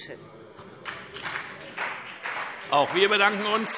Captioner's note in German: Beifall BÜNDNIS 90/DIE GRÜNEN und CDU